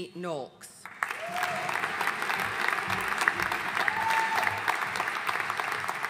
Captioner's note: audience cheering and applauding